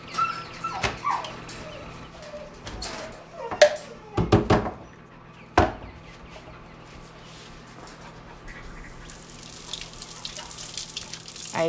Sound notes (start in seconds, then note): 0.0 dog whimpering; 3.6 cup tapping against counter; 8.5 water running